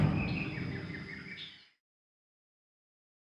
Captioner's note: audio out